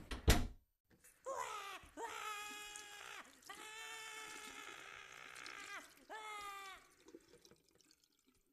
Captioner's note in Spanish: gritos de dolor y desesperación